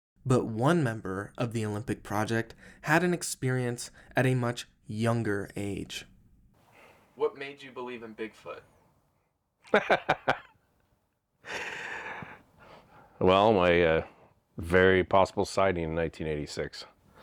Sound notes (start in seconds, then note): 9.6 laughing